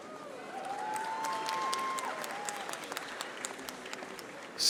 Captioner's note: audience applauding